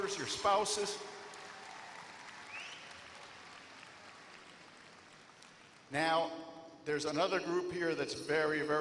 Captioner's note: applause